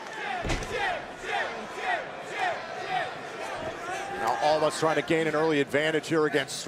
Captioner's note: crowd cheering